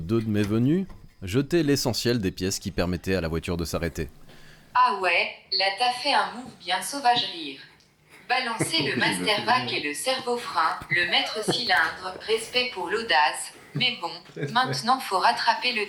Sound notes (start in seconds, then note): 8.3 laughs